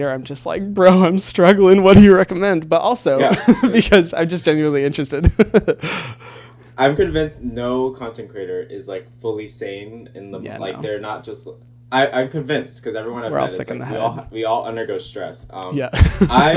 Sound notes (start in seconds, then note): 5.2 laughing